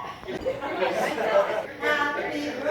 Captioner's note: LAUGHs